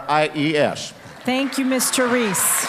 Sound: applause

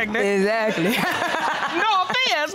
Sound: laughs

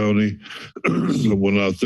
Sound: clears throat

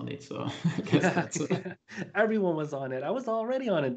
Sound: laughter

